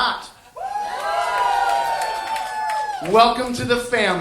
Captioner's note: audience cheering